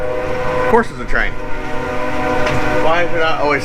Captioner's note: loud train horn